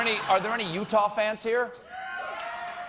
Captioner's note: laughter